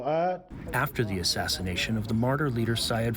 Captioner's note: through translator